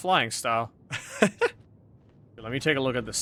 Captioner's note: laughs